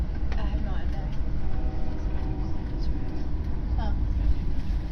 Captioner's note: Acela Express Horn